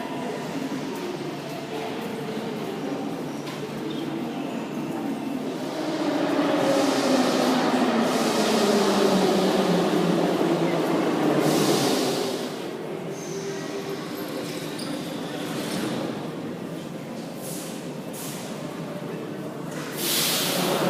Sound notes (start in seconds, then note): 0.2 opening doors; 5.9 arrival of train at the station; 13.2 closing doors; 20.6 arrival of train at the station